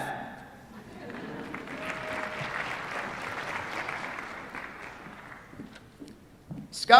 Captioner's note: applause